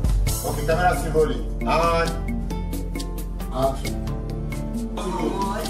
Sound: speaking foreign language

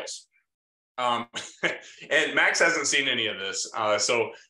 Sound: laughs

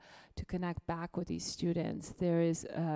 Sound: none

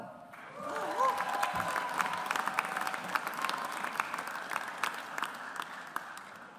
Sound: audience applauds

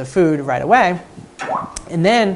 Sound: device chirps

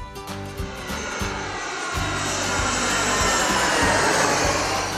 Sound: plane engine roaring

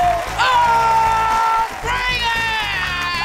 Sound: screaming

